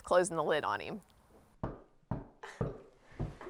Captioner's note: Knocking; chuckles